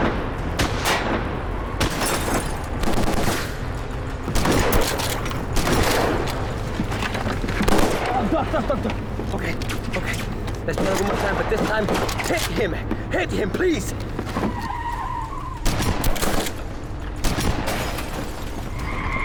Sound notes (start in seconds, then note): 15.6 gunshots